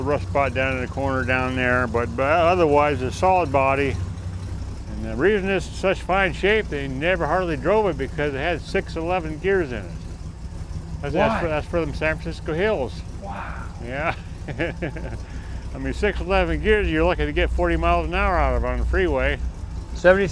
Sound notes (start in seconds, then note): 13.8 chuckles